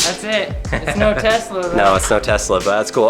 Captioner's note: narrator laughs